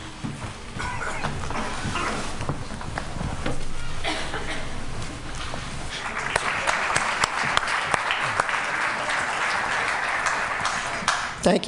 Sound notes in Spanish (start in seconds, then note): 5.9 Aplausos